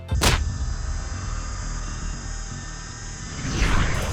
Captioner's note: machine engine revs